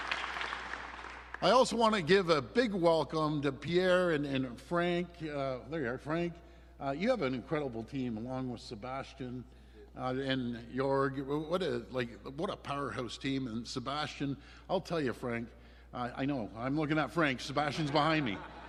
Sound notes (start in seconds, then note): 0.0 applause